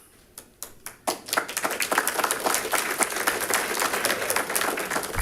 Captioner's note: audience applauding